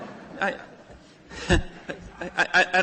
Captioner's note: laughter